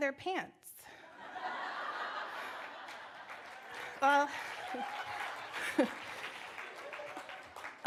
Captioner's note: laughter